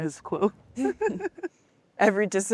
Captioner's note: women laughing